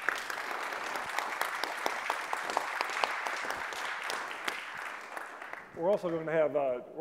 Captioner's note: applause